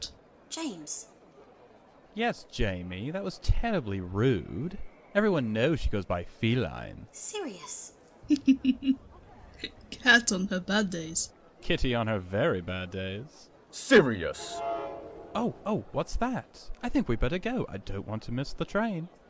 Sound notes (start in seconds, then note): 8.3 chortles; 14.3 the train whistles